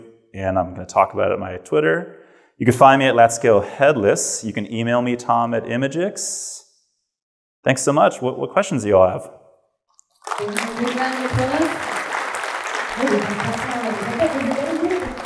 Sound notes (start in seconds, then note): 10.2 audience applause